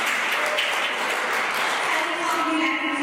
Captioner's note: applause